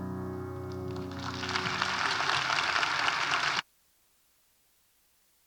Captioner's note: audience applauding